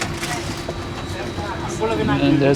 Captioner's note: background chatting